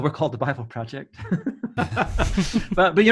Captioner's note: men laughing